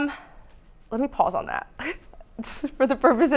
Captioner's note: giggles